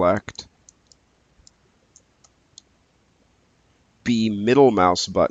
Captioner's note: mouse clicking